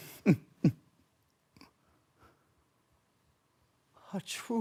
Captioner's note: chuckling; soft breaths